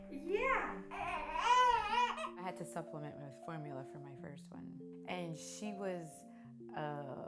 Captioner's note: baby crying